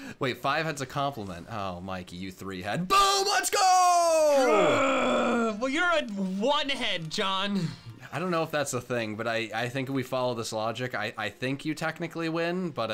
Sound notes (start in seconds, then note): 4.8 growls